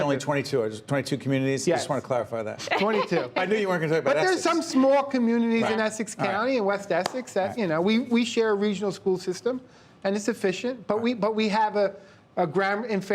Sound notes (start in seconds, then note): 2.6 laughter